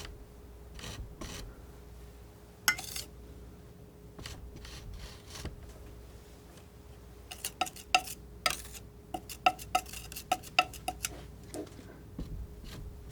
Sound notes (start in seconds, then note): 7.6 tapping